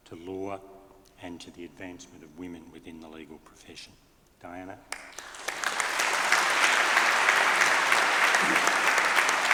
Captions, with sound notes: to law and to the advancement of women within the legal profession. Diana. (audience applauding)